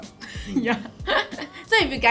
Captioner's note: laughs